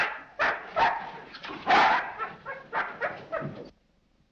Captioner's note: dog barks